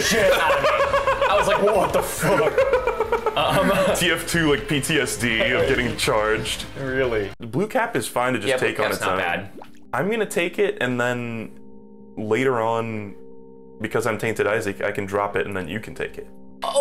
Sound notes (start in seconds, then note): 0.0 laughing